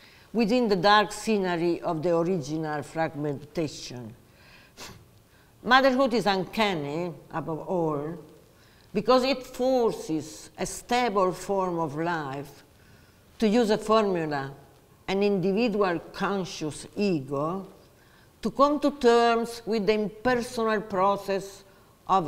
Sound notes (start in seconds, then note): none